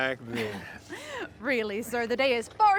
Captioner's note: Rosemary laughs nervously